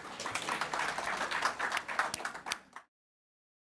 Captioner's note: applause